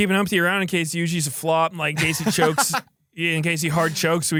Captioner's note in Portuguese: risos